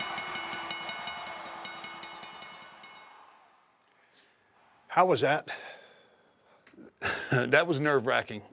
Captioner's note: applause; laugh